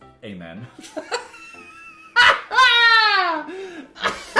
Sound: Dan laughing

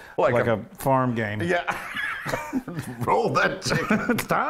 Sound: laugh

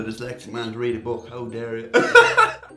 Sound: laughs

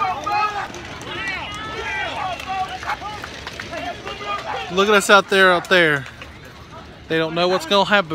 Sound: cheering, speaking background

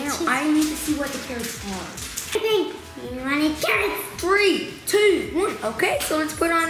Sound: none

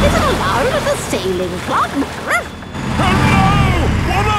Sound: barks

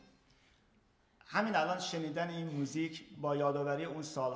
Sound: speaking in farsi

